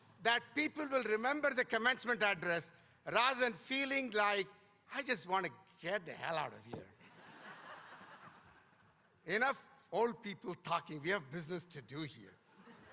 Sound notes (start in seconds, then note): 7.1 audience laughing; 12.6 audience laughing